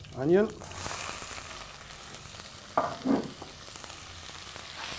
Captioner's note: sizzling